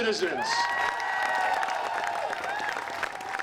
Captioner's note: applause